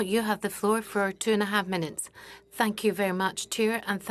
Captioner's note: speaking French